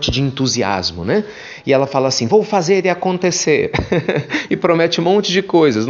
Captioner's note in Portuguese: risos